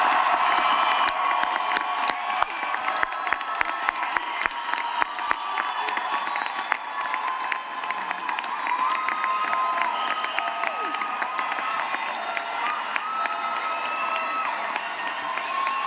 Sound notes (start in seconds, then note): 0.0 cheering and applause